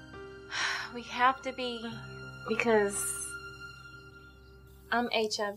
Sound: sighs

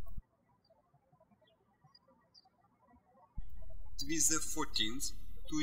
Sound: birds chirping

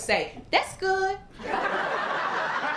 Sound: laughter, applause, and cheering

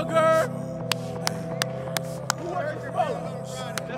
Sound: clapping

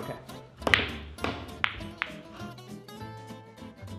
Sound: balls crash

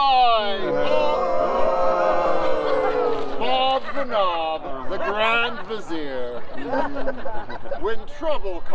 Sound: boos

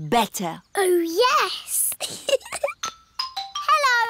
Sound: giggles

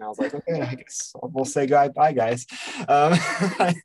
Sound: chuckles; laughs

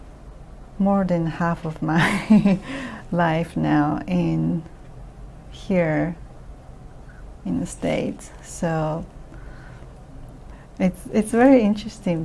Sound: laughs

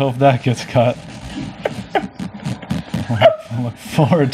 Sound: laughs

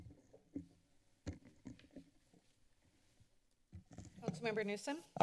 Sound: silence

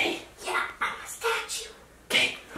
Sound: whispering

